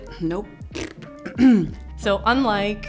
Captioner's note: blows raspberry; clears throat